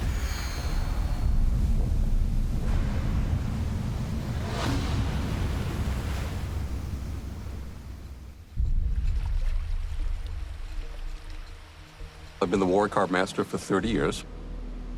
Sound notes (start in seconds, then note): 0.2 wind blowing; 2.7 waves crashing; 8.6 suspenseful music